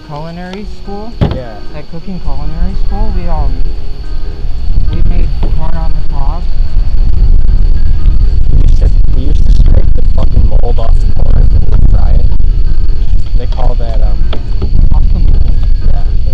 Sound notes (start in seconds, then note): 7.7 obnoxious wind noises grand finale